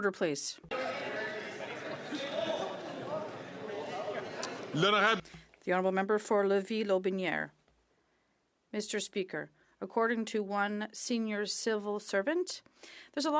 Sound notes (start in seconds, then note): 3.8 some Applause; 4.3 speaking French